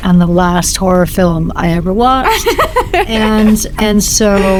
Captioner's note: Hannah laughs